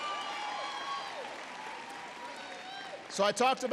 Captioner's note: applause